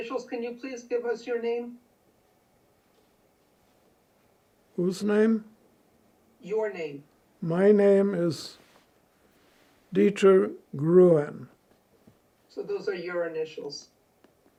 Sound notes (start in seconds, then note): none